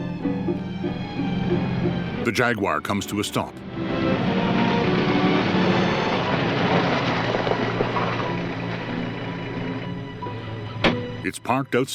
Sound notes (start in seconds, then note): 6.1 gravel crunching